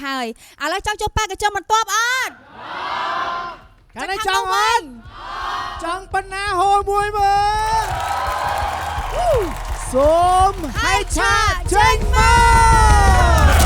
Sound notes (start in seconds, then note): 7.2 the crowd cheers